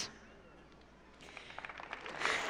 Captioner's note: applause